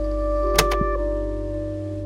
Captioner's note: click